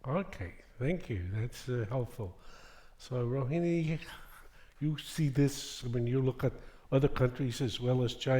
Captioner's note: none